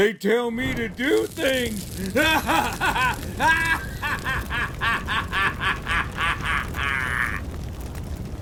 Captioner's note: laughs maniacally